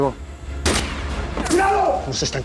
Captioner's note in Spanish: Disparo